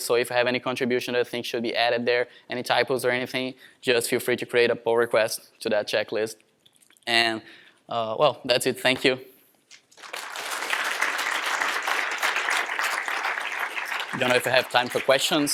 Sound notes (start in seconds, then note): 9.8 applause